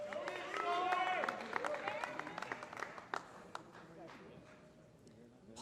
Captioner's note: applause